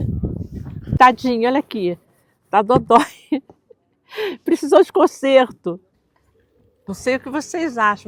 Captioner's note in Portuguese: risos